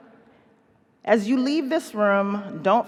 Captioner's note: none